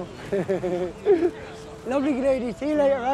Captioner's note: laughs